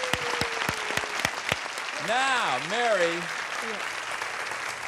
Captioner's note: applause